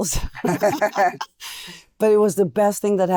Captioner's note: laughing